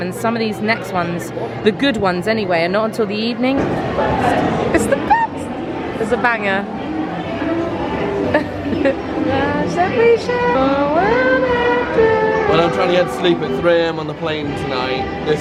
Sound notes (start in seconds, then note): 8.1 laughing